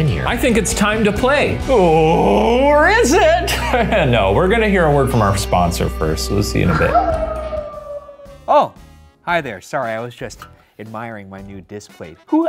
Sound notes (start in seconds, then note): 3.5 chuckles; 6.6 wolf howling